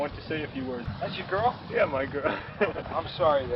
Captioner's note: laugh